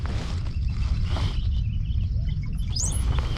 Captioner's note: more bird noises